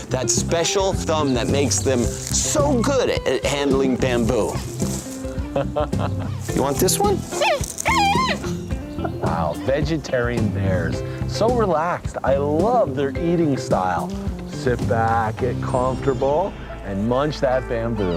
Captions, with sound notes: that special thumb that makes them so good at handling bamboo. (chuckles) - You want this one? (panda squeals) - Wow, vegetarian bears. So relaxed, I love their eating style. Sit back, get comfortable, and munch that bamboo.